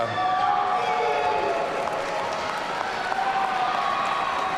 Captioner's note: audience cheering